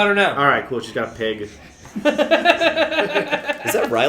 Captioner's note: laughter